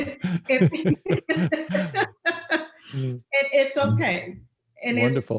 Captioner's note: laughs